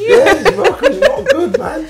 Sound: laughing

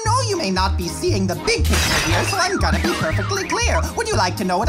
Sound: crash; car alarm sounding

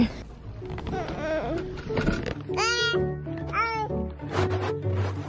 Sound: babbling happily; upbeat music

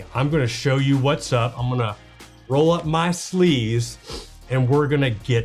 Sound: sniffs

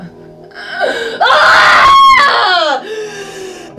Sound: loud scream

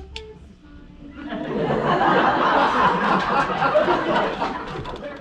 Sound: audience laugher

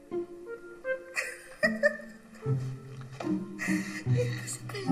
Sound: giggles

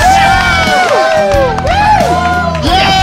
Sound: sound of cheering

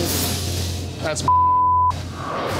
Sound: beeping

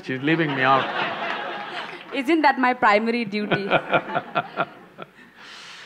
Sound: laughter; Sadhguru laughs

